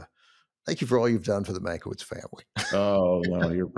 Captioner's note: laughs